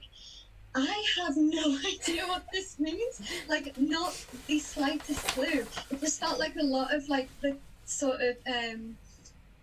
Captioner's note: laughs